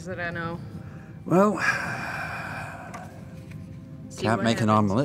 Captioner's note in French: soupire